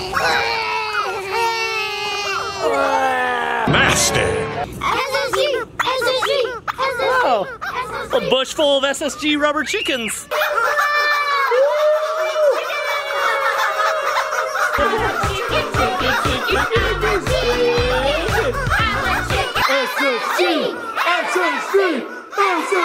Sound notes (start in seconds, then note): 0.0 kids and dad groaning; 4.8 toys squeaking; 9.6 toys squeaking; 9.8 kid shrieks; 10.5 kids shouting indistinct; 14.8 chill electronic music